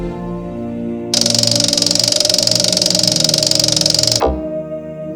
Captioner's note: object clicking